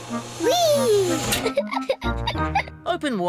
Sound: giggles

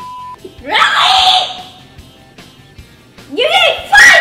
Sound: beep; screaming

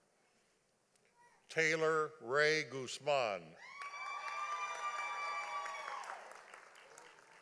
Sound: audience applauding

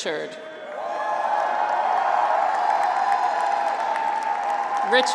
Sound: graduates cheer

